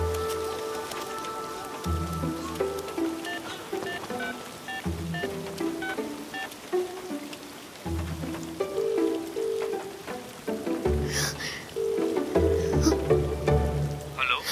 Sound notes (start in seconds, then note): 3.9 mobile keypad dialing sound; 9.4 mobile ringing